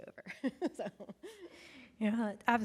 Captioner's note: chuckles